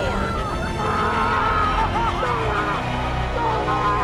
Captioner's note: screams